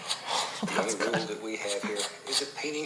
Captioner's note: laughs